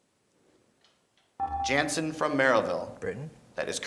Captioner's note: beeping